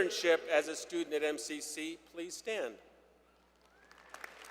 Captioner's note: applause